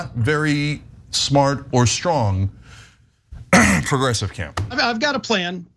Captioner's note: cough